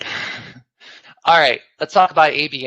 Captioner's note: laughs